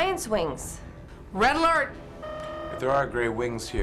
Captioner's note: klaxon